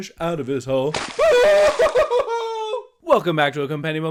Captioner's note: Chuul appears, singer screams